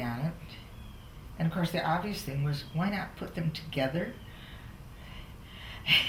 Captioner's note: laughs